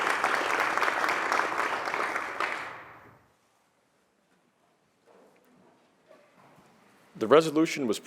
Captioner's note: applause